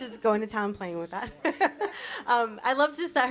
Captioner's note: chuckles; laughs